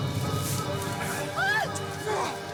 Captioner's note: Alora screams